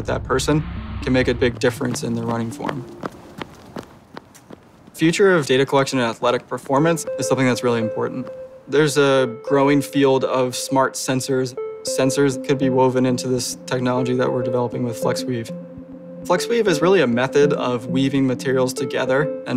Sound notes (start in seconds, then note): 3.0 footsteps